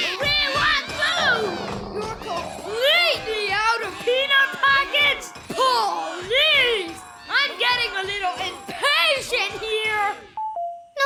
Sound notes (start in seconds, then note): 0.9 howling; 1.0 growling